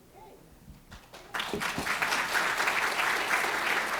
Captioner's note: applause